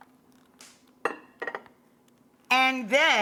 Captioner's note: bowl clunks